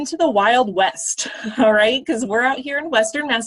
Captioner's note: laughter